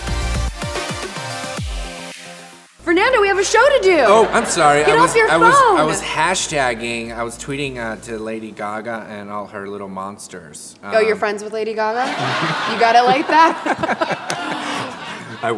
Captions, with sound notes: - Fernando, we have a show to do! - Oh, I'm sorry, I was- (audience laughs) - Get off your phone! - I was hashtagging, I was tweeting out to Lady Gaga and all her Little Monsters. - Oh, you're friends with Lady Gaga?. (audience laughs) You got her like that?. (laughs)